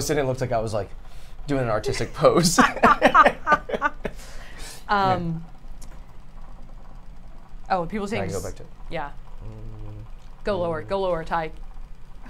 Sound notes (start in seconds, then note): 2.5 laugh